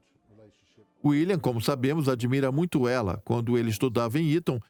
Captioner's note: voiceover